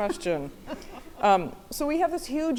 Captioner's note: laughing